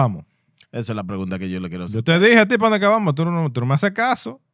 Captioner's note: speaking In Foreign Language